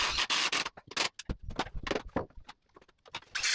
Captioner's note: drill whirring